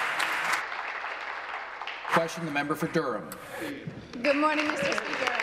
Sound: applause

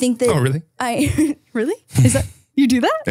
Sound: giggles

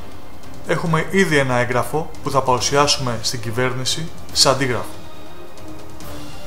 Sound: Turkish

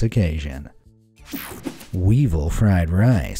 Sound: image whooshing

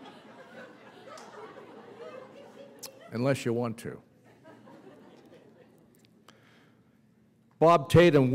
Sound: laughter

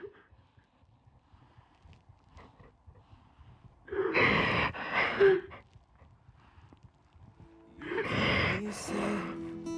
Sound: crying

